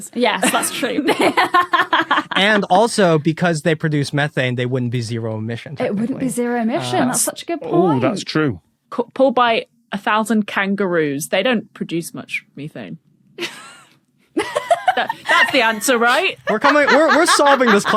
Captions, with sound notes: Yes, that's true. (laughs) And also, because they produce methane, they wouldn't be zero-emission. It wouldn't be zero-emission. That's such a good point. Oh, that's true. Pulled by 1,000 kangaroos. They don't produce much methane. (cracks up) (laughs) That's the answer, right? We're coming— We're solving this